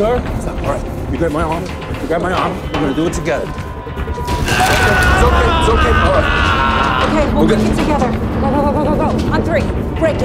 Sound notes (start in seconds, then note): 4.0 yells